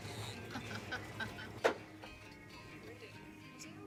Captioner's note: laughs; chattering